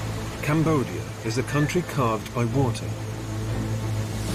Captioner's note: voiceover